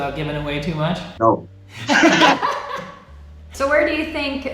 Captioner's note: laughing